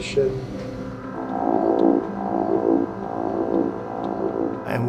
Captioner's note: machine humming